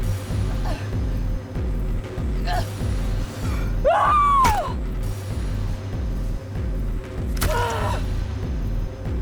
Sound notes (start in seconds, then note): 3.8 yells